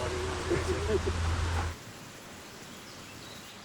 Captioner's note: laughing